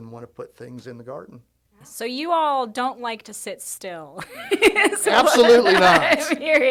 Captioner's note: laughs